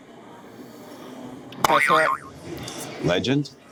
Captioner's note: spring bouncing